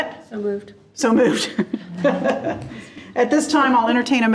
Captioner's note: laughs